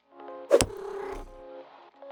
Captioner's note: cat purrs